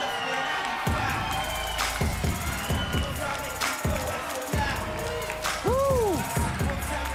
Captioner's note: crowd cheering